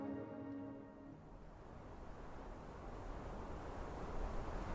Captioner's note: wind blows